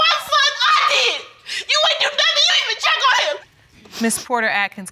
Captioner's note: crying